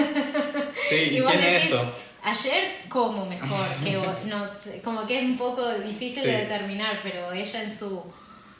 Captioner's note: laughs